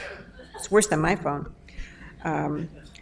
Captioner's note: audience member laughs